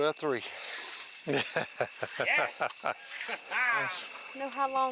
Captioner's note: camera operator laughing